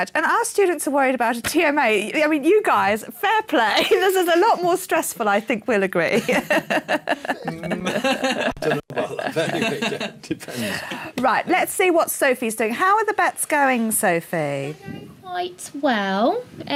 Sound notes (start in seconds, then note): 6.1 laughing